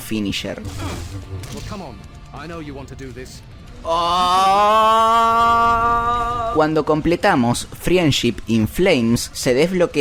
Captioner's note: my reaction screaming with excitement